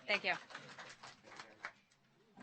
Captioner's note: applause